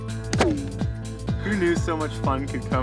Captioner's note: gun twangs